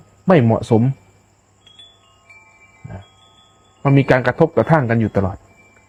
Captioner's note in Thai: เสียงกระดิ่ง